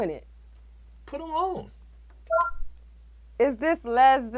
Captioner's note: soundboard beeps